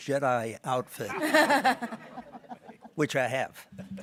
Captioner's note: people laughing